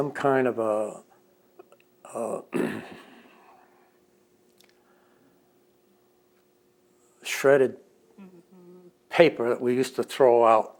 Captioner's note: clears throat